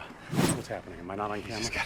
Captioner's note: air whooshes